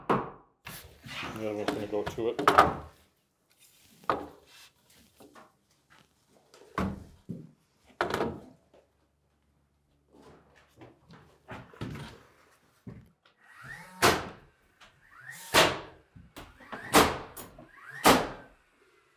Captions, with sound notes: And the other one's gonna go up to it. (nail gun thudding)